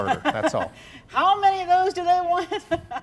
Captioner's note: laughs